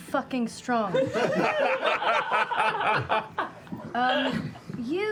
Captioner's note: laughter